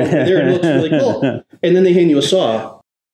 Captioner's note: laughs